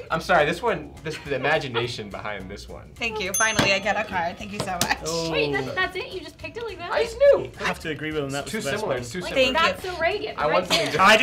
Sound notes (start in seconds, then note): 3.3 bell dings